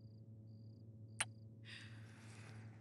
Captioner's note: Kisses